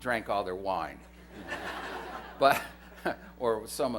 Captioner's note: laughter